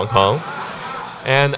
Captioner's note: audiences laughing